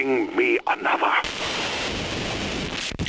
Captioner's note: static